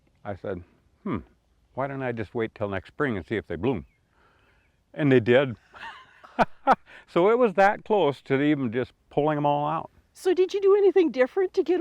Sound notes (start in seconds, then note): 5.7 chuckle